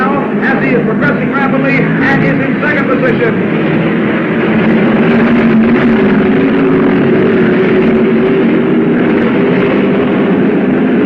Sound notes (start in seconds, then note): 3.9 cars revving